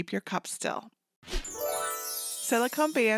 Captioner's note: glittery whoosh